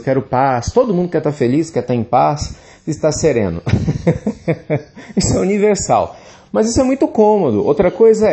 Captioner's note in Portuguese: risos